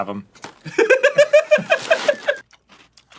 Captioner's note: giggling